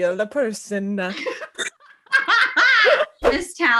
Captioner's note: laughing